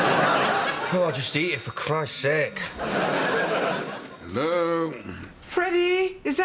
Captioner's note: phone rings